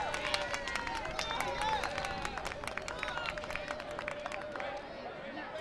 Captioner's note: distant clapping and cheering; crowd chanting